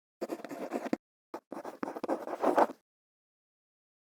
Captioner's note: quill scratching